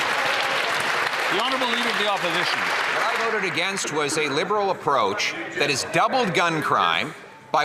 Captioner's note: some Applause